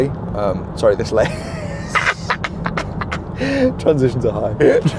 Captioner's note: laughs